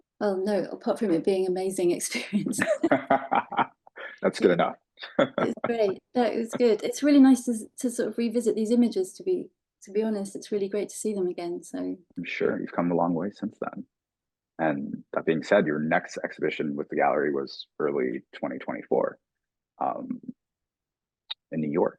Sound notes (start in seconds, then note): 2.5 laughing; 5.5 laughing